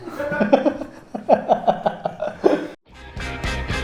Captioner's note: laughs